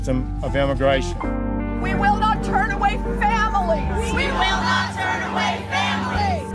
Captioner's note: crowd echoes